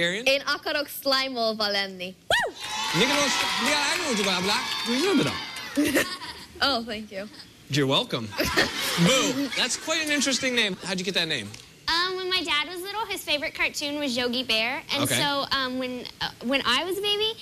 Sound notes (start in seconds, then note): 0.4 speaking Hungarian; 2.7 speaking gibberish